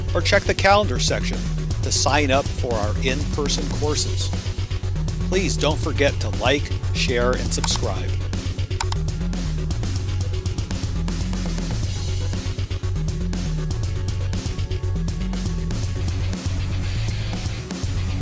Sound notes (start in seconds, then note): 7.4 pointer clicking; 12.4 upbeat music